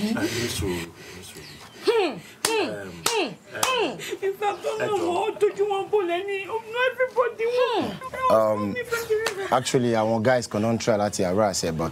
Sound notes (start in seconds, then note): 5.3 speaking in foreign language